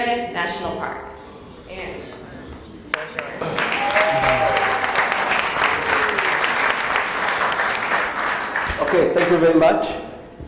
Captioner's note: applause